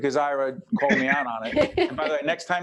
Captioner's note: laughing